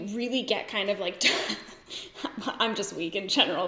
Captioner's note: giggles